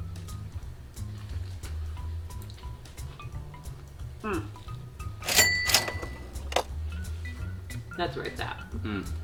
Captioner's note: crunch... chewing sounds